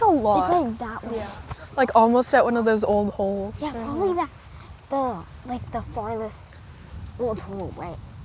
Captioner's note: none